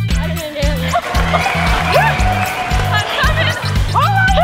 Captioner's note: applause; pop music